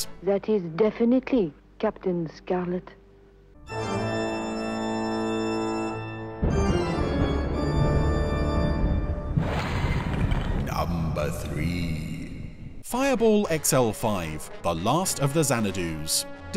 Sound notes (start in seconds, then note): 3.8 dramatic music; 10.9 ominous Voice